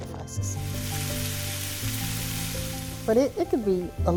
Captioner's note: pan sizzling